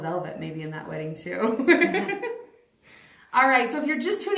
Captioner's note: laughs